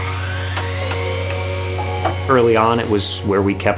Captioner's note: chop saw turns on and slices through wood; hammering